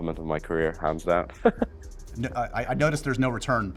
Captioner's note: Paul giggles